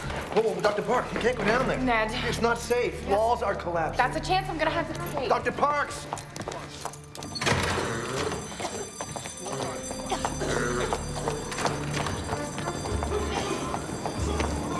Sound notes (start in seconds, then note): 8.6 alarm; 10.9 fire smoke alarm; 11.4 alarm